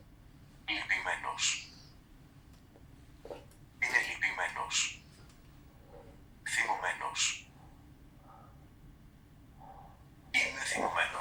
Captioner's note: achmet – artificial male voice